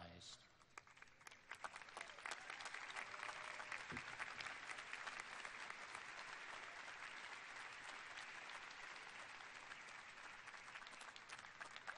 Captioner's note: applause